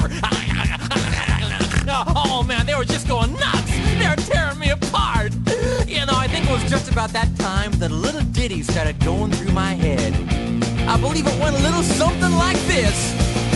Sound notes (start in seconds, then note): 1.8 snork; 5.4 wheeze